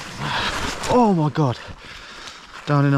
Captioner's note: body thudding